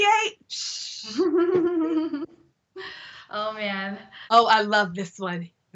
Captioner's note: laughs